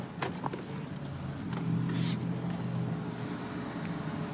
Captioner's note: distant traffic hum